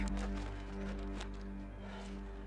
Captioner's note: gasping